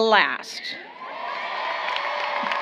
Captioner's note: applause